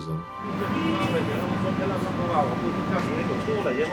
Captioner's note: men chatting